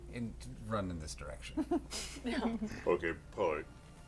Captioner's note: laughter